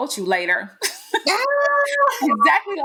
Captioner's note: both laughing